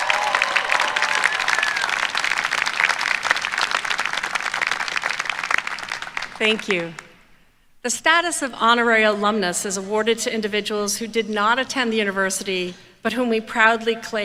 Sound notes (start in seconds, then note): 0.0 applause